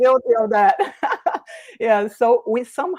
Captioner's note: laughs